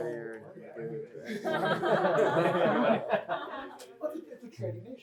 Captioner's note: laughter